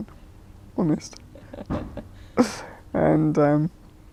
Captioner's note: laughs